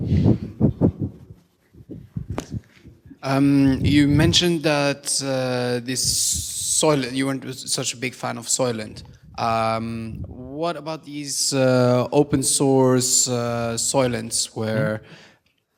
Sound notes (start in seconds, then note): 4.1 voiceover